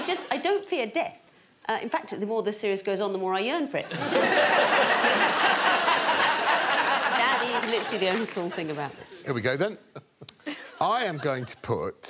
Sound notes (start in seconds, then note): 5.5 all laughing